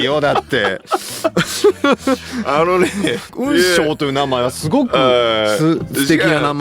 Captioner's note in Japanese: 笑い